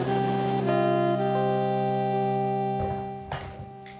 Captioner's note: rain pattering